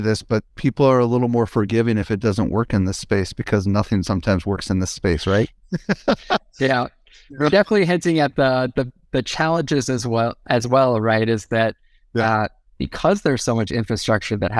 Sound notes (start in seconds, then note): 5.7 laughs